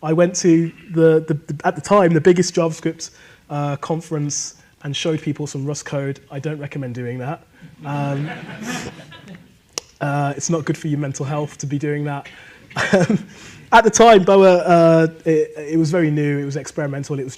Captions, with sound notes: I went to, at the time, the biggest JavaScript conference and showed people some Rust code. I don't recommend doing that. (audience laughing) It's not good for your mental health to be doing that. At the time, Boa, it was very new. It was experimental.